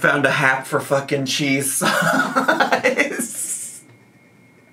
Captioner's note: laughs